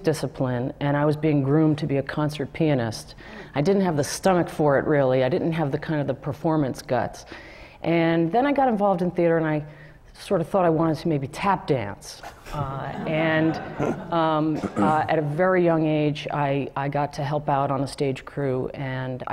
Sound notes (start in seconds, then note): 12.3 laugh